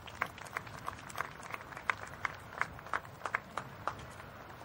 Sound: applause

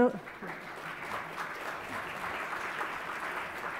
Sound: applause

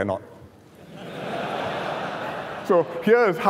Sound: laughter

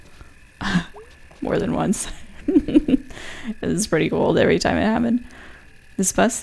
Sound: laughs

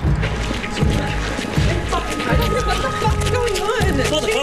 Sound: muffled fighting

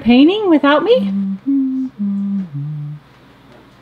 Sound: humming

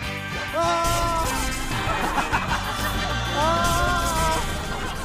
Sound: in pain

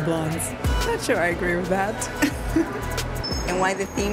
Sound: laughs

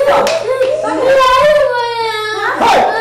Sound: crying

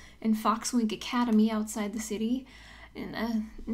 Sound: none

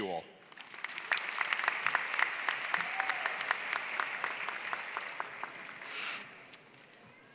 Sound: applause

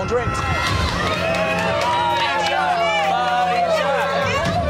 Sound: cheering

